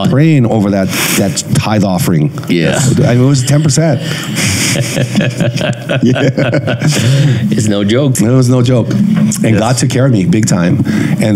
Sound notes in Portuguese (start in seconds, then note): 3.5 risos